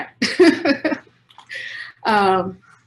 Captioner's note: chuckles